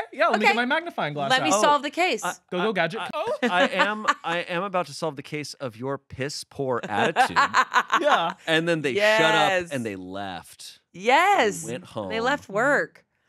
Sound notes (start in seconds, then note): 6.8 laughing